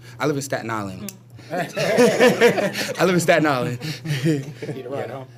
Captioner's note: laughter